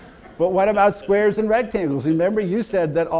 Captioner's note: audience laughter